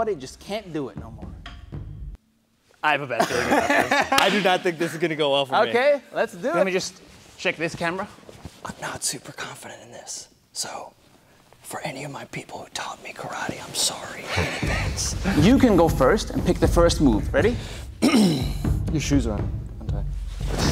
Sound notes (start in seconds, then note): 3.2 laughing